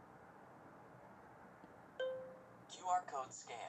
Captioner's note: ding